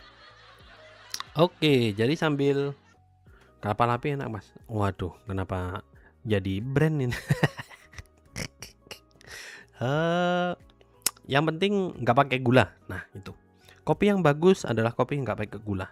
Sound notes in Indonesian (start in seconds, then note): 8.3 tertawa